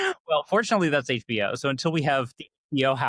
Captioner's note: laughing